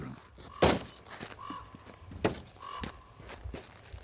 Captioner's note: sled thunks